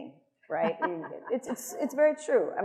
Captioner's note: attendees laughing